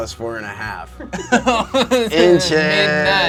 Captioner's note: audience laughing